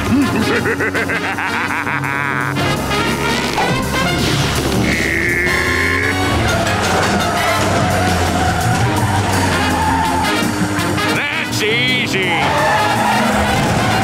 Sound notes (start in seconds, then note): 0.0 laughing; 4.8 grunting